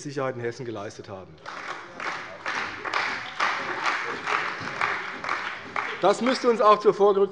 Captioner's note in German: Beifall bei der CDU und dem BÜNDNIS 90/DIE GRÜNEN